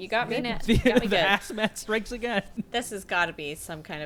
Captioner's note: laughs